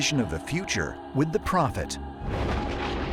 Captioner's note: thunder